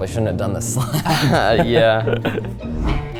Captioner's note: chuckling